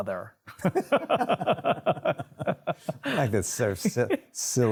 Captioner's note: both laugh